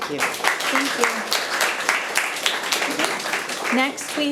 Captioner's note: audience applauding